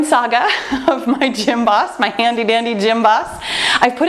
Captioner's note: laughs